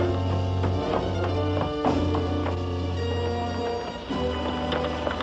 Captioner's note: footsteps